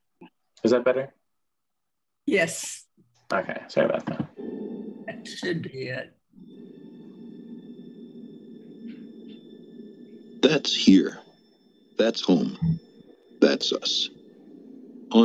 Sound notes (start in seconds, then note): 2.4 pat